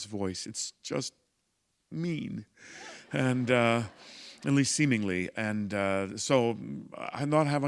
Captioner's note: laughter